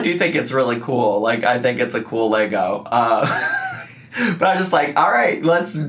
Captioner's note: laughs